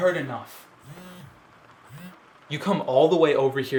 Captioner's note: phone buzzing stops